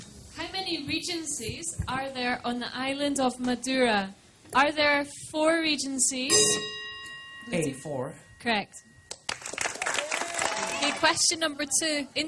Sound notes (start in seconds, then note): 6.3 bell; 9.1 applause